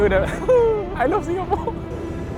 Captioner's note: whimpers